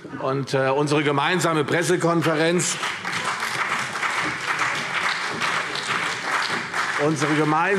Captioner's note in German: Beifall CDU und BÜNDNIS 90/DIE GRÜNEN